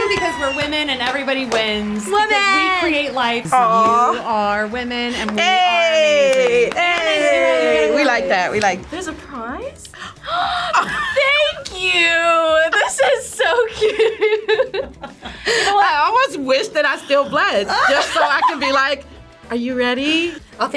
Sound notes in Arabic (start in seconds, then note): 10.6 يلهث; 12.5 يضحك